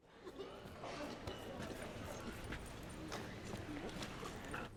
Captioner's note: whispering, murmuring